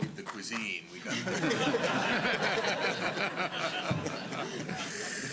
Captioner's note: laughter